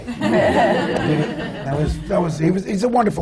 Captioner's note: laughter